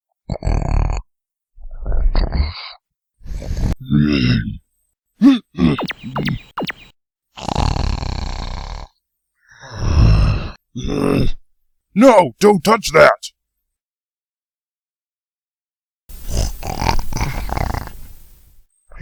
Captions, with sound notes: (snoring continues) (groans again) (grunting) (snoring continues) (growls) No! Don't touch that! (snoring)